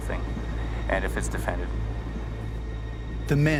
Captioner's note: voiceover